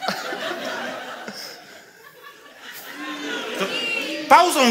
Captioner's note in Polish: śmiech